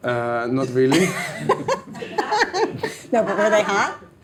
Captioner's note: laughs